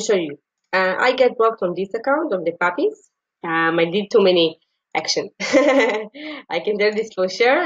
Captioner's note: laugh